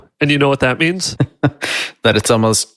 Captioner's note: laughs